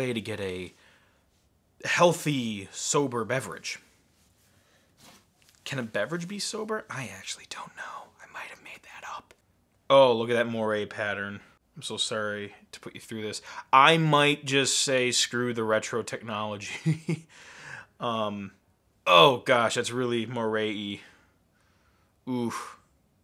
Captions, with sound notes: to get a healthy, sober beverage. Can a beverage be sober? I actually don't know, I might have made that up. Oh, look at that moire pattern. I'm so sorry to put you through this. I might just say screw the retro technology. (laughing) Oh gosh, that's really moire-y, oof.